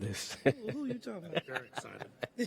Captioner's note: chuckling